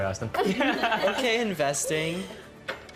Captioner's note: laughing